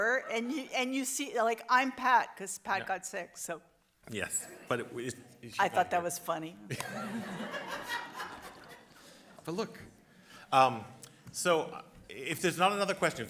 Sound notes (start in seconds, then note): 6.7 audience laughs